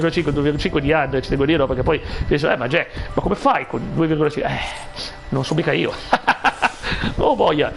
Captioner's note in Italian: risate